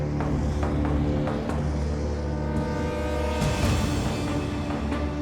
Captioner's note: wind whistling